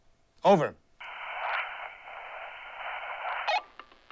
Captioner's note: hissing